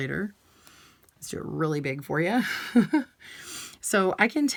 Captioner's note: chuckles